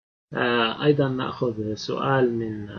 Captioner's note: speaking Arabic